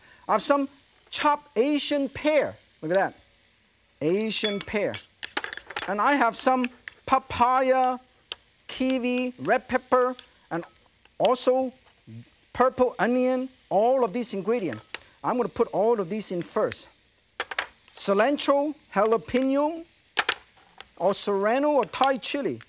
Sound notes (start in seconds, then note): none